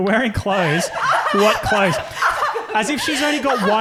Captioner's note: laughing